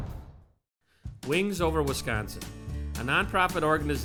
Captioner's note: voiceover